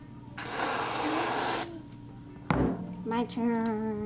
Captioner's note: can hisses